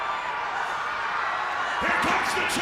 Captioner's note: audience cheers